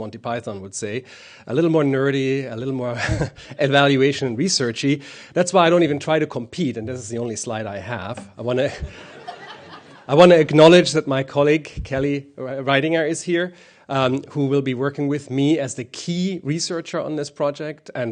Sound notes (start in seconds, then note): 8.8 laughter